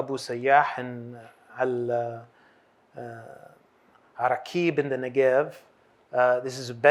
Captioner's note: hebrew